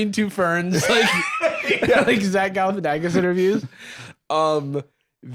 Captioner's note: laughs